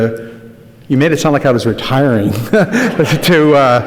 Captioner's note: laughs